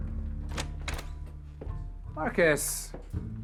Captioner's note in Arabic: طقطقة الباب